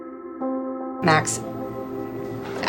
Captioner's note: voiceover